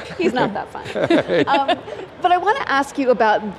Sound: laughter

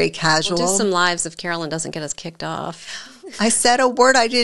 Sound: chuckles

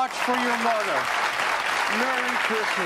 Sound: audience applauding

